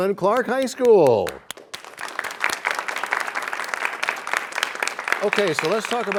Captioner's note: applause